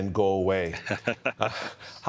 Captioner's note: chuckling